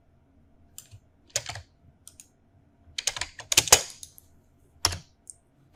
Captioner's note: keyboard keys clicking